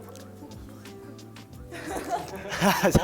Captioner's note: laughs